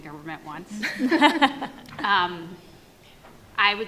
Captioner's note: panel laughs